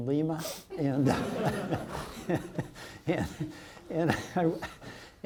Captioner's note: audience laughs